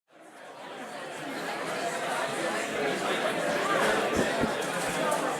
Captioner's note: people conversing quietly